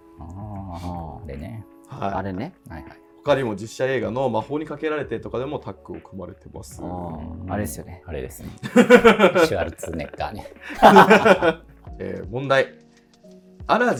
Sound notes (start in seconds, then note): 11.0 laughing